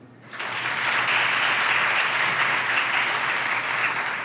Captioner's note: audience applauds